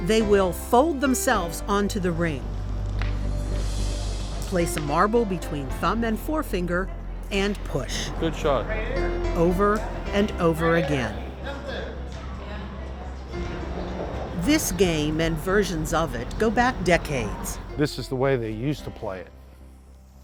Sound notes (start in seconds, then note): 11.6 bright music; 11.6 people chattering